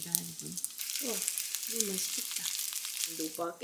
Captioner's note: sizzling sound